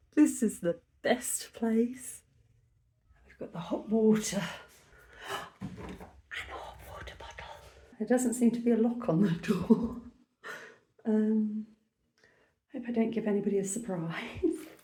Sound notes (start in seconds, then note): 5.0 gasp; 14.0 laughing